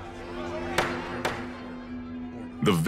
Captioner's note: judge gravel banging